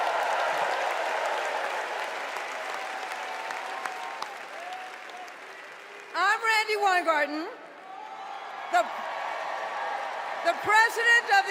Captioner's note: cheers and applause